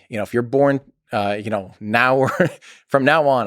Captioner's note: Tim laughs